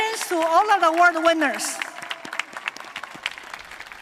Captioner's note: applause